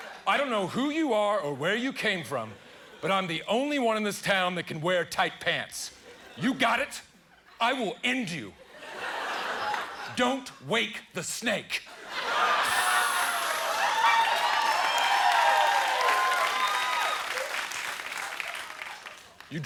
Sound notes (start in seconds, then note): 12.6 hissing; 14.5 cheers and applause